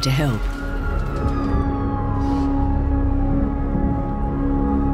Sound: siren wailing loudly

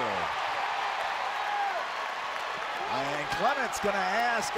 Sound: crowd cheering

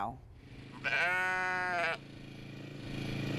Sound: sheep baas

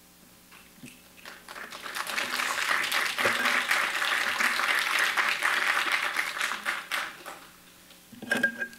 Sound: applause

